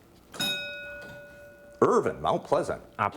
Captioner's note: ding